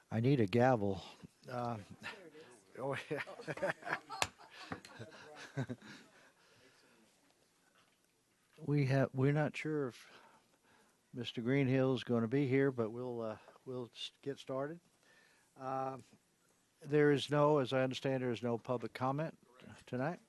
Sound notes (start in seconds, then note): 5.2 laughter